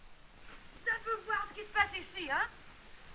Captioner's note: speaking french